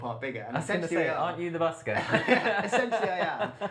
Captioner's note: laughter